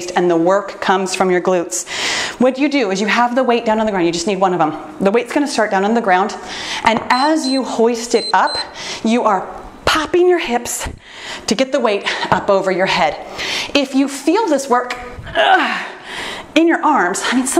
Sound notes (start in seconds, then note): 8.1 timer beeps